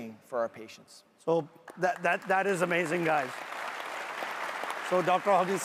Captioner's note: audience applauds loudly